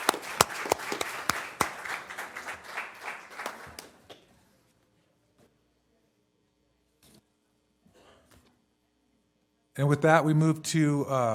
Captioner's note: applause